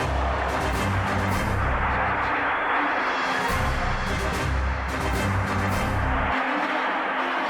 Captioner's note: applause